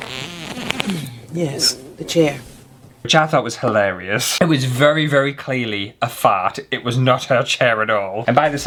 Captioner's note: fart!